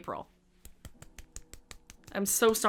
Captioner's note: claps